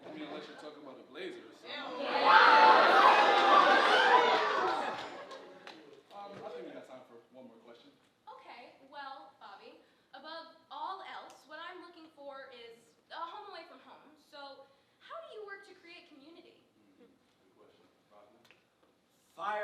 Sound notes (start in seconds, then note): 2.0 audience gasping